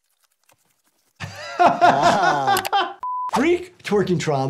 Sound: Jordan laughs

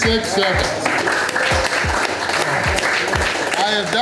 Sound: crowd clapping and cheering

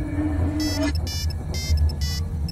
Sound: phone Ringing

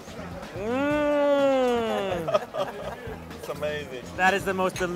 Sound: delighted hum

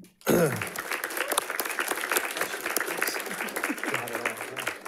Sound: audience applauding

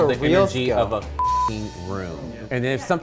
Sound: beep

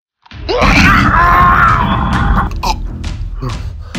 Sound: growling, screams

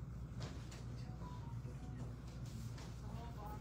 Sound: phone dings

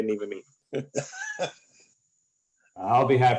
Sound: laughter

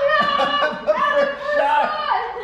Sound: laughing

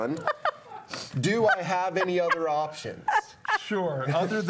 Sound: laughing

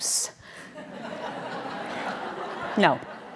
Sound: audience laughing

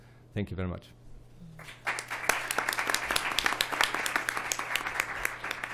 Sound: applause

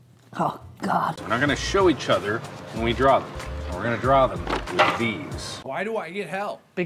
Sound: mowing sounds in backround

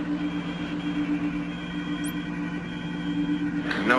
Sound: whirring

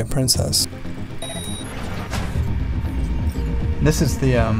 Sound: computer game beeping

